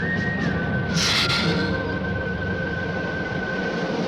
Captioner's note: lizard hissing